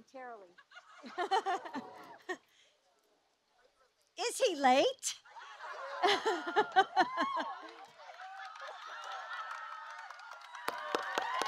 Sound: laughter

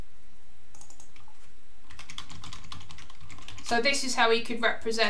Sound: keyboard clicking

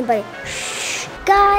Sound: shushes

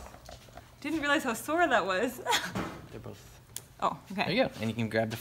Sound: laughs

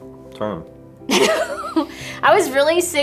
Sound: laughs

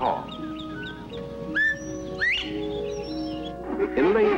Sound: bobwhite call

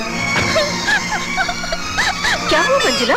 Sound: crying

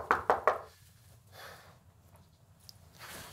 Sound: door knocking

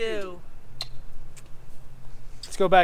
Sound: lip smacks

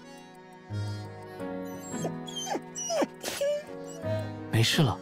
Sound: whine

